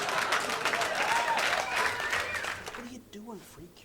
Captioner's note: whispering